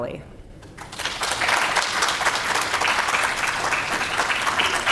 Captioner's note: audience clapping